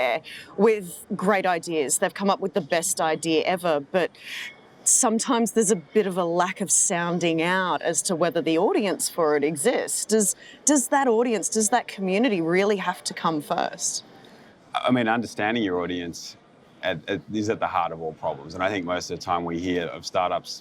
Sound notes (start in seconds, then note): none